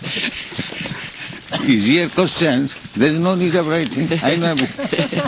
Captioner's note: laughter